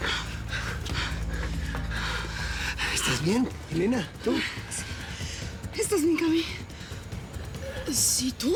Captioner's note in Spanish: todos jadean